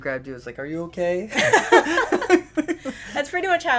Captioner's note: laughter